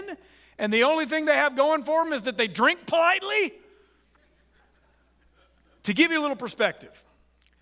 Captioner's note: audience chuckles